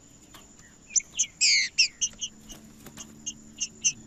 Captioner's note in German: trinca ferro cantando